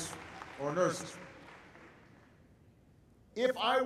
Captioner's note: applause